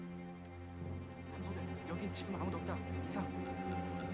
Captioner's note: speaking Korean